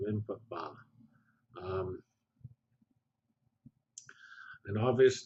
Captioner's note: pause